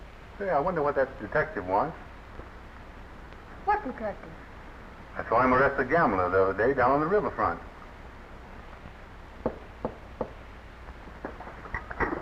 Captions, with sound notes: Say I wonder what that detective wants? - What detective? - I saw him arrest a gambler the other day down on the riverfront. (knocking)